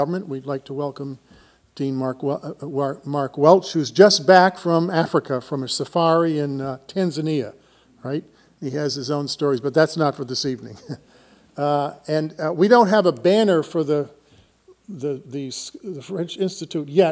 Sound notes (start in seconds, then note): 11.6 laughs